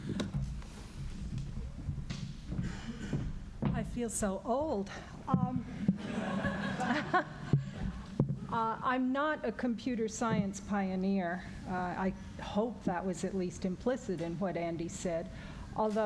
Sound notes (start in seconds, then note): 5.9 laughter